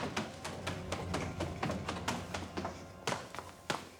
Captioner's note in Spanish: pasos apresurados